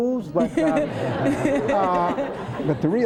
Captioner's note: laughter